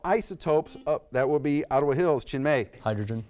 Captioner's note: buzzer beeps